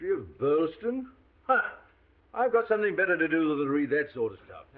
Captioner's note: scoffs